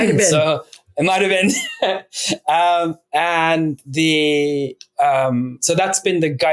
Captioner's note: laughs